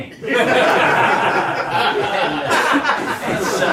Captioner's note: laughter